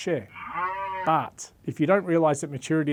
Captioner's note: cow moos